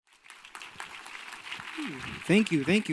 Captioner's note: crowd applauding